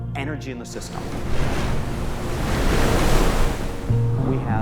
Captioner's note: waves crash